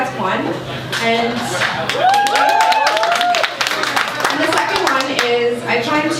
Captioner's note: applause